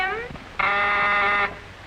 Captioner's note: buzzer